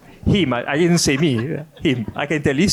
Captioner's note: laughs